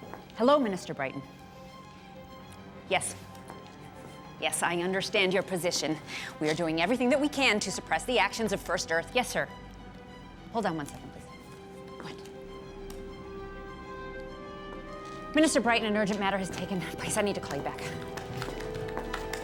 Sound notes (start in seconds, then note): 12.4 whispers